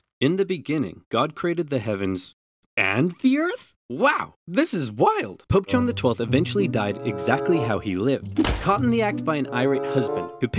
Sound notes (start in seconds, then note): 8.3 door bangs